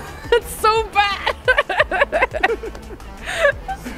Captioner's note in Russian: смеется